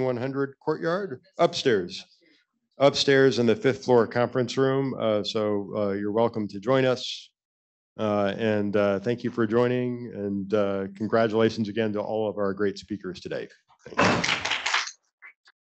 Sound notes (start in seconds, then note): 14.0 applause